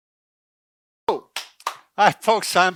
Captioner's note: clapping